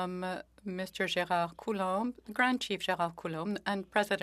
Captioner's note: speaking French